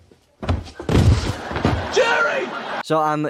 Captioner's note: laugh track